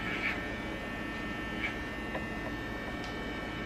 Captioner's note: razor buzzing